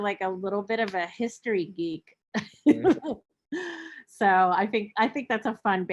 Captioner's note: chuckling